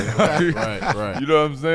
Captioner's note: laughing